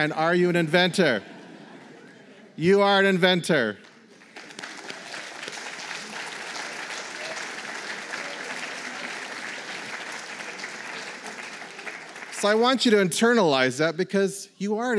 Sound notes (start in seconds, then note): 1.1 laughter; 3.4 applause